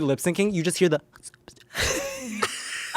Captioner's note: lips smack; everyone laughs